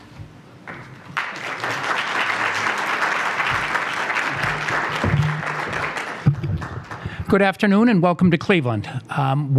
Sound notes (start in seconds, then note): 3.4 applause